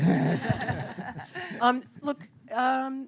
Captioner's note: laughter